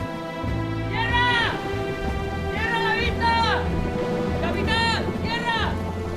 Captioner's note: man screaming